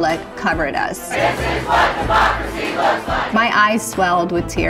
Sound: crowd

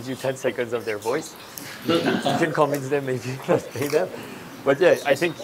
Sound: laughter

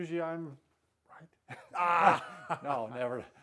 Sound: laughs

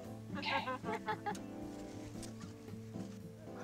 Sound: laughter

